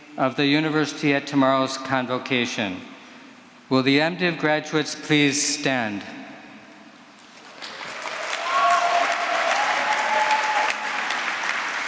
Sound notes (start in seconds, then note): 7.3 applause